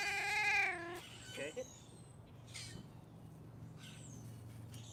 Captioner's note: Mouser meowing